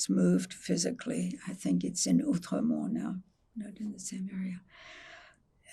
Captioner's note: french